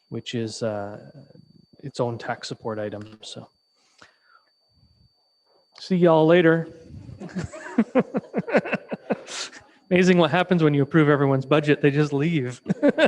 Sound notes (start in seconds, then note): 7.0 participants laugh